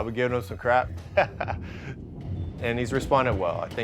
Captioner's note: laughter